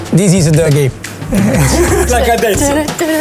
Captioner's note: laughs